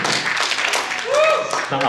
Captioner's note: applause